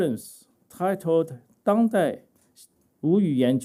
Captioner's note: speaking chinese